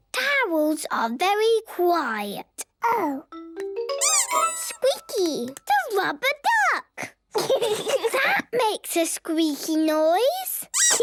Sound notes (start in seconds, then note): 4.0 squeaks; 10.8 squeaking